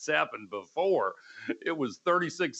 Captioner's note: laughter